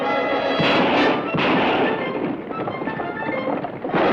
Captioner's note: gun fires